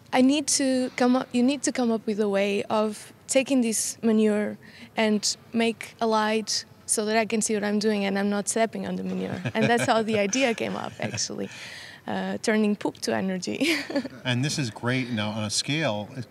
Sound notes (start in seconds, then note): 9.1 laughs; 13.6 laughs